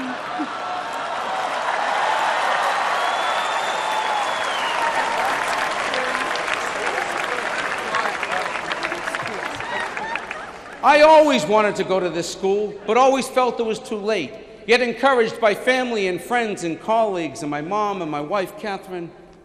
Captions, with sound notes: [LAUGHTER] I always wanted to go to this school, but always felt it was too late. Yet encouraged by family and friends and colleagues and my mom and my wife, Catherine,